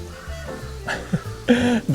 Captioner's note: chuckles